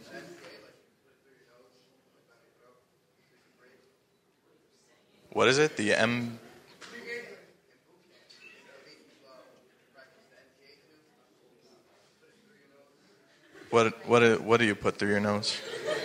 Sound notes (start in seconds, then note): 8.7 speaking faintly